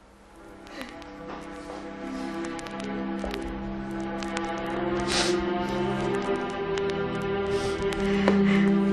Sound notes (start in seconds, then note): 0.6 Esther sobs